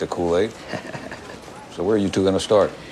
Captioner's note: chuckles